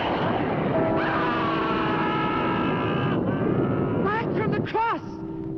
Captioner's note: witch screaming